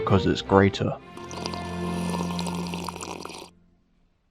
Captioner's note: aggressive tea slurp